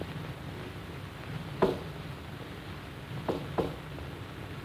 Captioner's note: knocking rhythm